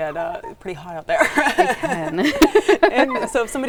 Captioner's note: both laughing